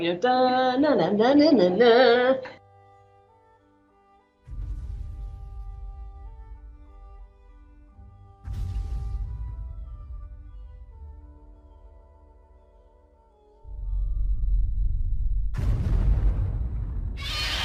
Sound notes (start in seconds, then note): 2.8 peaceful instrumental music; 8.3 thud; 15.4 massive thud; 17.2 loud roar